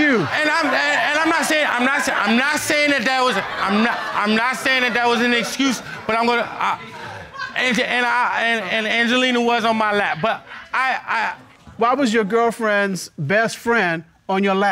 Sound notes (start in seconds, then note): 7.2 stammering